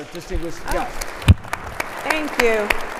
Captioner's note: audience applauding